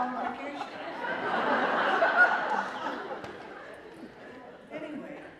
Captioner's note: laughter